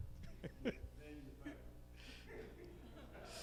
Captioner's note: chuckling